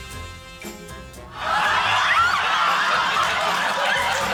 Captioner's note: shocked laughter